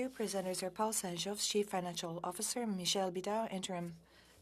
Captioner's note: speaking French